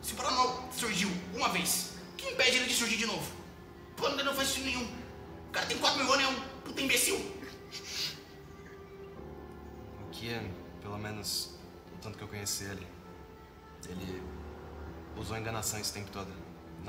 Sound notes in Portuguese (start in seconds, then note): 7.4 Risadas